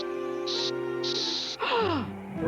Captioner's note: gasps